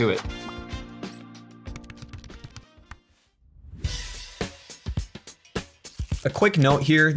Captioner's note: upbeat music; keys typing